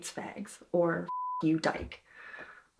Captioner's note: beep